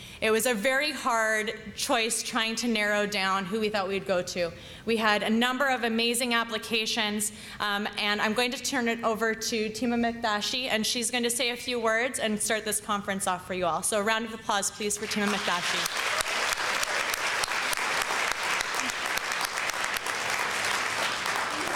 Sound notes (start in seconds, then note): 15.0 applause